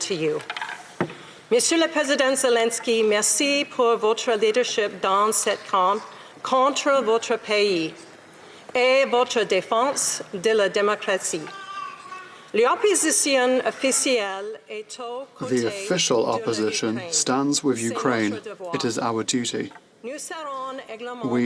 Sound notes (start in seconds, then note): 5.7 speaking French